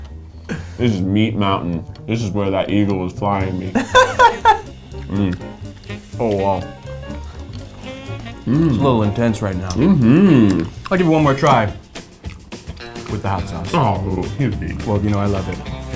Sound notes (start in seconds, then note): 3.8 laughing